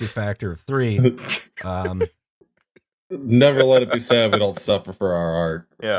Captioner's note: despairing laughter